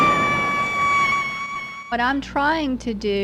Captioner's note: screaming